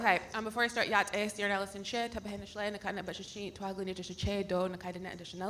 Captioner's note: speaking in foreign language